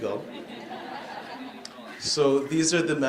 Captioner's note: laughing